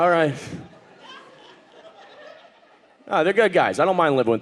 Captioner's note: audience laughing